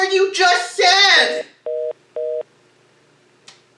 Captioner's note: phone hangs up